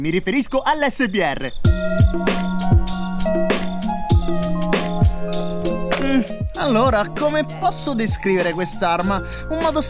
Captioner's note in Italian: Sbuffo